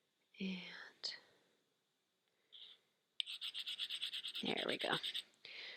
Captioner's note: rock scratching